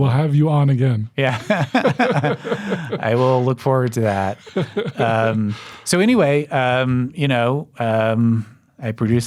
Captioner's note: chuckling